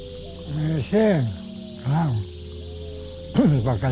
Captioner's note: speaking Spanish